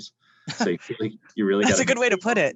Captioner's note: laughs